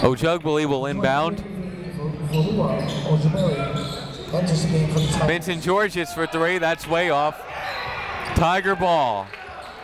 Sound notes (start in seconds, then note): 8.1 whistle